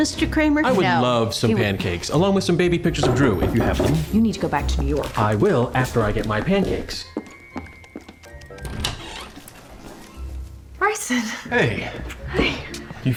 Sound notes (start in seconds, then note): 3.0 knocking on door; 5.9 footsteps, door opening